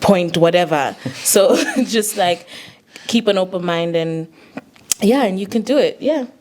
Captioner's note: chuckles